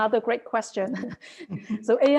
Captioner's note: laughs